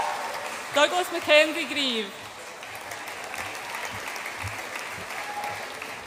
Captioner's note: audience applauds